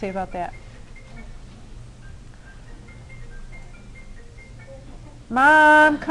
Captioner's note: phone ringing